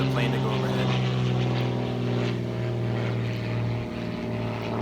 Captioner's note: plane engine rumbling